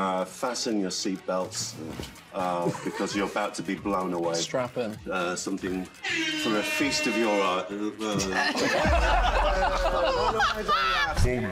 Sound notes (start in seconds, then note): 6.0 buzzer blares; 8.0 group laughs